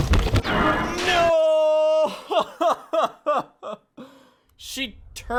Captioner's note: laughs